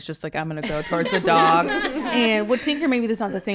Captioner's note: people laughing